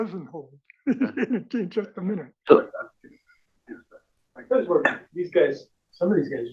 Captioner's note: laugh